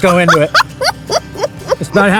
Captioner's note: laughing